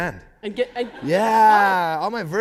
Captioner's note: laughter